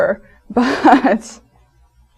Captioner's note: laughs